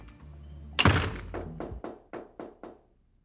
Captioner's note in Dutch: kloppend op de deur